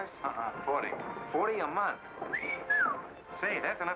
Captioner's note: whistles